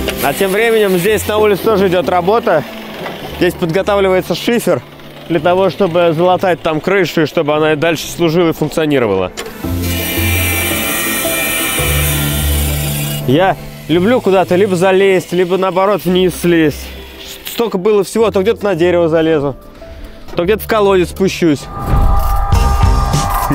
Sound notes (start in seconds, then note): 9.7 construction sounds